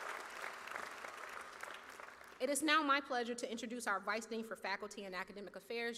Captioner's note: cheers and applause